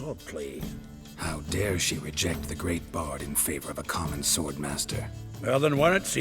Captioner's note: in mocking tone